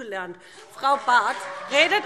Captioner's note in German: Beifall BÜNDNIS 90/DIE GRÜNEN – Zurufe Freie Demokraten: Oh, oh, oh!